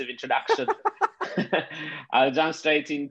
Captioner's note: laughing